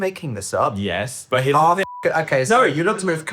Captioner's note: beep